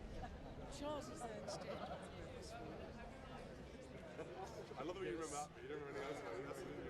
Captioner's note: soft talking